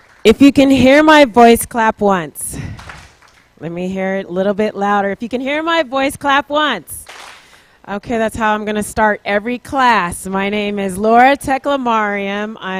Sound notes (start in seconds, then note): 2.7 clapping; 7.0 clapping